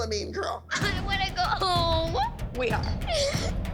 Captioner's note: sobbing